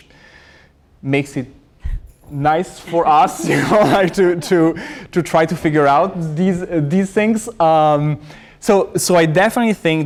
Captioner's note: laughter